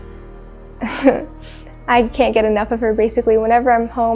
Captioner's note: chuckles